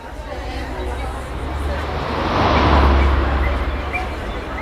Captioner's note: city crowd and cars